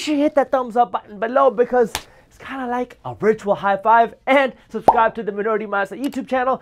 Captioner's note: clap